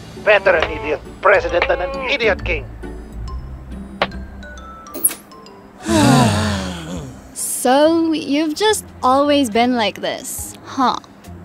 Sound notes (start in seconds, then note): 5.8 groans